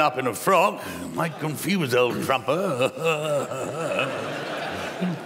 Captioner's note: chuckles